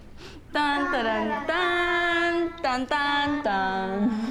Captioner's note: humming A-Team theme